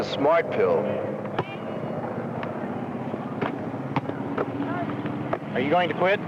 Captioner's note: basketball bouncing